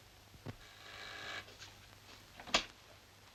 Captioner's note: doorbell buzzes